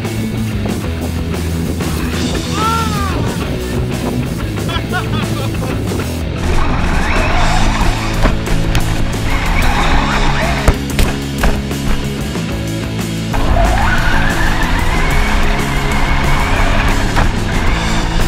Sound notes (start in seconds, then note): 2.4 shouts; 4.2 laughing; 6.4 whirring; 7.7 fast rock music